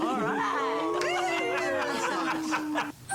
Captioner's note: crowd; laughing